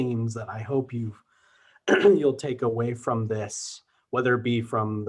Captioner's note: clears throat